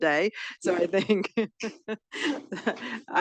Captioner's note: chuckles